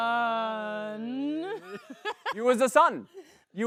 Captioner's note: laughs